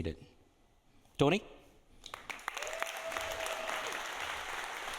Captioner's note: audience applauding